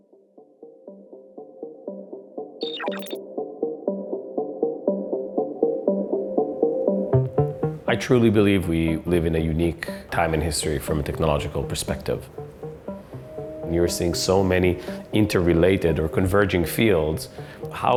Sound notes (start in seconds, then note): 0.3 soft music; 2.6 electronic tone beeping